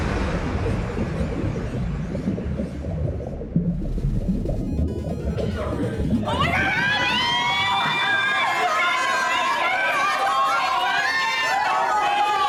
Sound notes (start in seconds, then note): 3.6 upbeat music; 3.6 water bubbles